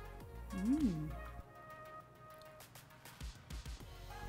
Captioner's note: cook wows and smacks lips; soft music